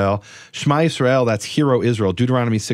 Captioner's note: speaks in foreign language